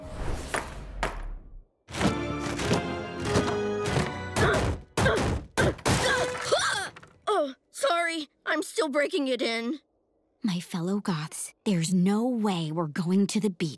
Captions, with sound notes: [pounding] [grunting] Oh, sorry. I'm still breaking it in. My fellow Goths, there's no way we're going to the beach.